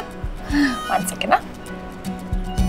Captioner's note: Giggling